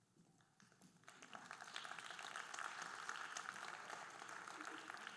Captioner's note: audience applauding